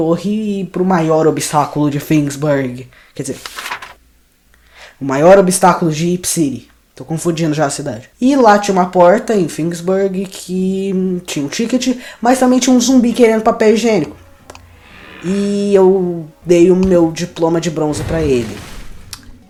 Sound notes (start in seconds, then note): 3.3 paper sound